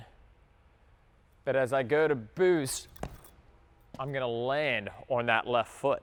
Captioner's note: foot thuds